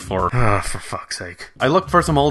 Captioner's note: groan